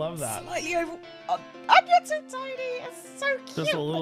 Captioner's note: squeals